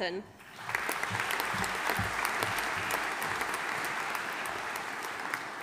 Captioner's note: audience applauding